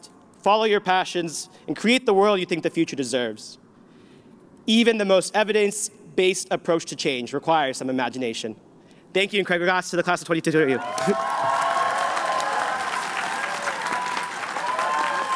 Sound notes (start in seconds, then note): 10.7 cheering